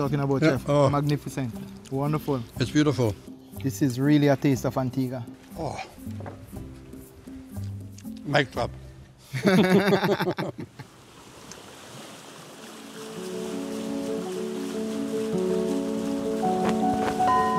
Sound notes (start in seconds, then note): 9.3 both laugh; 10.6 waves splashing; 12.6 gentle piano music; 17.3 harbor bell rings